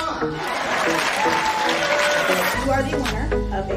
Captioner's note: cheering